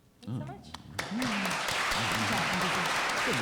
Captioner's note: applause